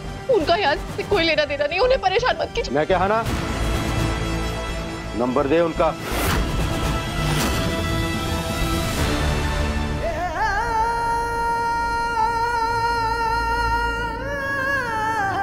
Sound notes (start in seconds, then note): 6.0 dramatic music playing; 9.8 emotional vocalising